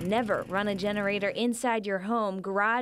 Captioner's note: generator running